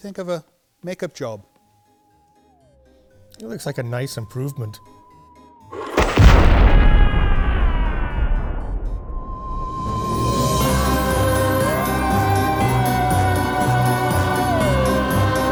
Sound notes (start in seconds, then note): 5.7 explosion & Screaming